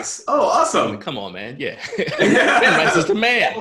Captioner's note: laughter